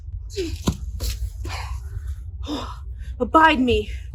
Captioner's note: Demetrius panting